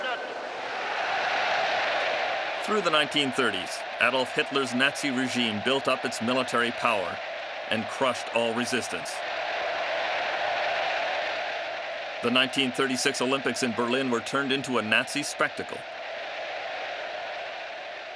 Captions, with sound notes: (crowd cheering) Through the 1930s, Adolf Hitler's Nazi regime built up its military power and crushed all resistance. The 1936 Olympics in Berlin were turned into a Nazi spectacle.